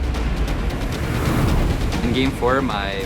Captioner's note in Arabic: صوت الهواء